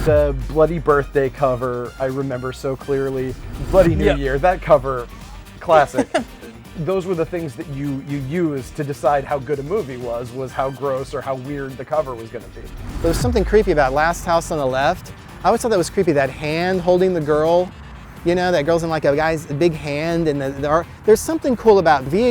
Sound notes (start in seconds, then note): 5.7 laughter; 12.5 background music